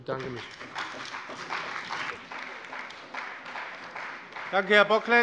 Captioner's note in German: Beifall bei dem BÜNDNIS 90/DIE GRÜNEN und der CDU